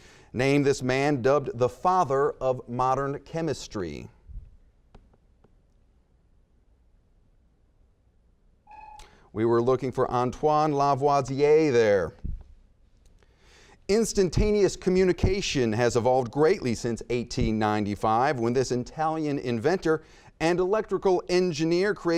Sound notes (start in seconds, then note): 8.6 buzzer beeping